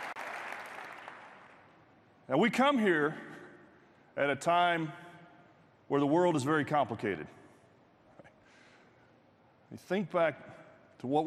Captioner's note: cheers and applause